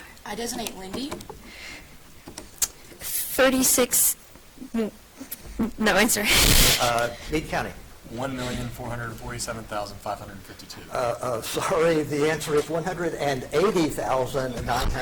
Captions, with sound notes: - I designate Lindy. - 36, no answer. (chuckles) - Meade County. - 1,447,552. - Sorry, the answer is 180,944.